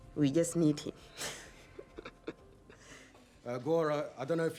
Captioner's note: chuckles